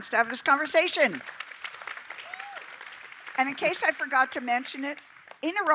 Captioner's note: applause